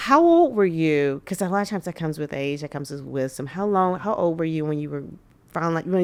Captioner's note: none